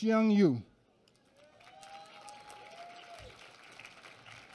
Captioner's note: applause